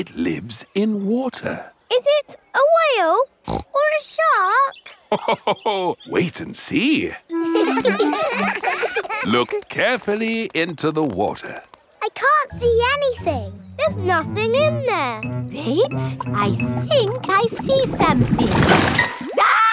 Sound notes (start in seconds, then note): 3.4 snorts; 7.3 children laughing; 7.4 laughs